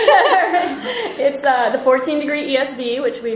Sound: laughter; voiceover

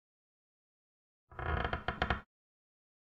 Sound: sound of creaky floorboard

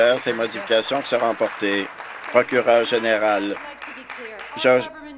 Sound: applause

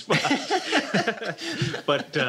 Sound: laughter

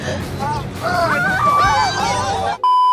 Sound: screams

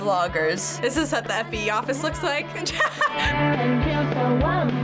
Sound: laughing

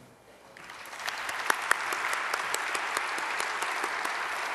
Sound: audience applause

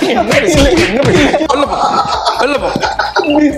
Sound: laughs

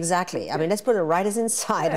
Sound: both laugh

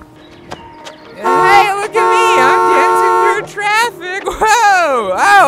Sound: honks

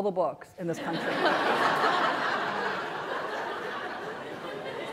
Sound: laughter

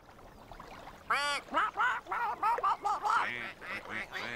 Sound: quacking

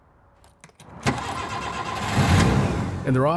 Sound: car engine starting

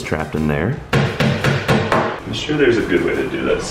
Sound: hammer pounding

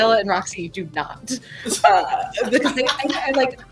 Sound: laughter

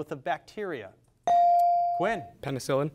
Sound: device dings

